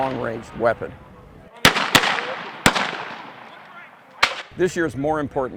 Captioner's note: weapon fire